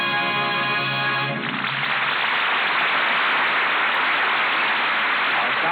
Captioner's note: horn honking; applause